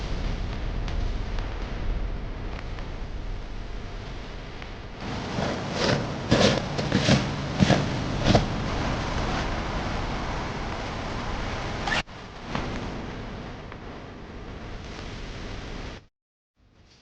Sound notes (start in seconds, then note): 5.0 fabric scraping; 11.8 bag unzips